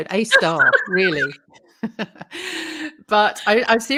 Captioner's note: laughs